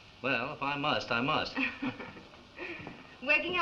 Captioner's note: chuckles